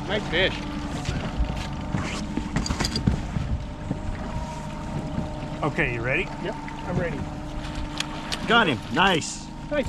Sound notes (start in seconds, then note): 0.0 boat engine idling